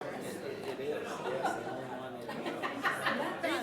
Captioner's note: people chattering